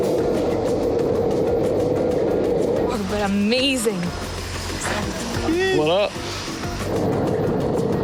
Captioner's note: wind Blowing